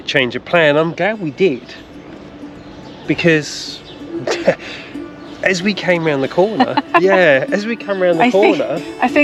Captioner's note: laughs